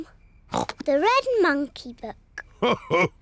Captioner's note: snorts; laughs